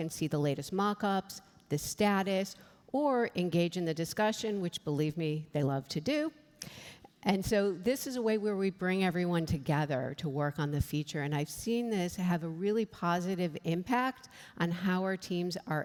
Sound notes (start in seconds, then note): none